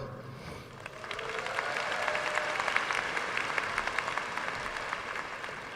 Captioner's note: audience cheering and applauding